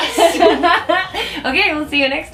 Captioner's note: laughing